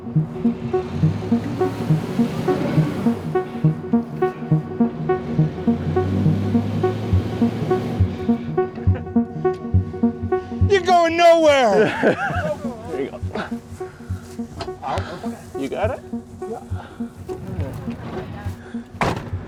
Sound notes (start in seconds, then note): 0.2 engine revving